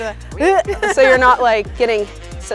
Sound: squeaks

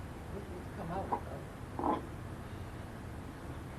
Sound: faintly speaking

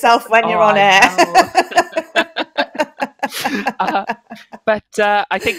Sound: laughing

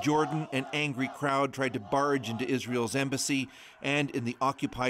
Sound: chanting

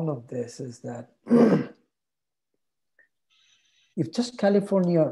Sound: clears throat

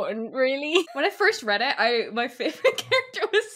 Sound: laughing

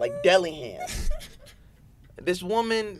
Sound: laughing

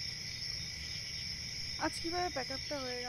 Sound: crickets calling

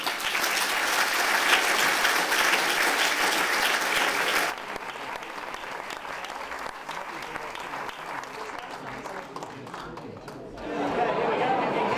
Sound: applause

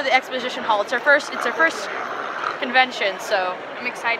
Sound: growls

